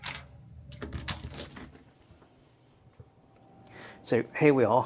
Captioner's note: latch clicking